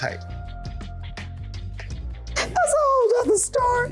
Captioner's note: laughing